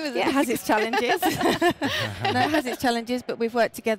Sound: laughing

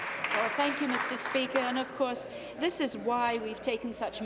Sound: applause

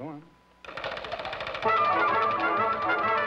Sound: wheel spinning

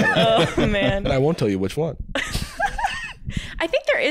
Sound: laughing

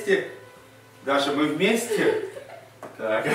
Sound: shy laughter

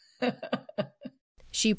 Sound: laughter

